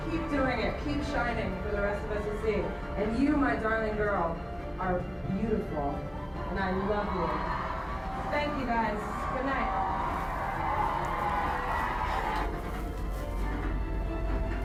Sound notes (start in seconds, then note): 9.6 audience on screen cheering